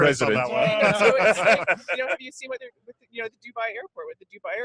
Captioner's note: all laughing